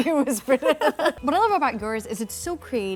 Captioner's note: laughing